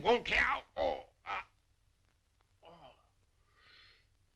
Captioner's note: grunting